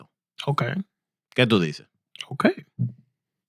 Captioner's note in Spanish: Hablando en idioma extranjero